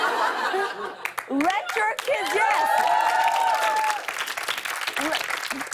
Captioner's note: cheers and applause